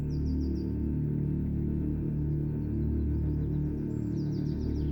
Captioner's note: birds chirping